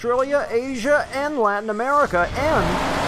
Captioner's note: car engine roaring